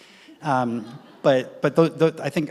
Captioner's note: audience laughs